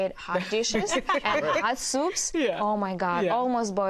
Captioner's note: all laugh